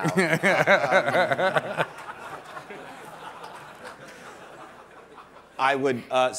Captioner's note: laughter